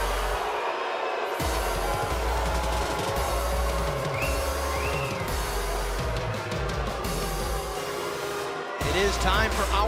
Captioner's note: cheers & boos